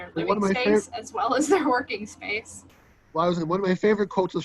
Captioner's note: laughs